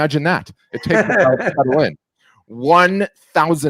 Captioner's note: laughing